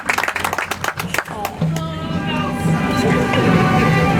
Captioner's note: audience applauds